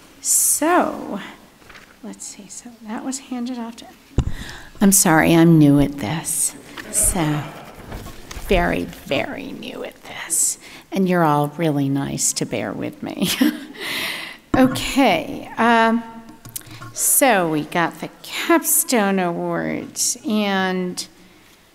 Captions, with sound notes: So, let's see, so that was handed after. I'm sorry, I'm new at this. (audience laughing) So very, very new at this, and you're all really nice to bear with me (laughs) So we got the capstone awards and now